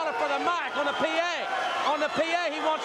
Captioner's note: crowd cheering